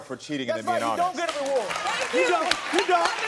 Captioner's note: audience applauding